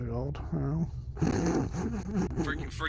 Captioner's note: laughing